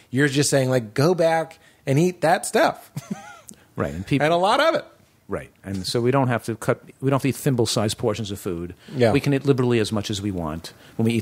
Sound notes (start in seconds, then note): 2.9 laughter